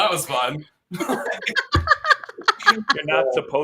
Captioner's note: laughter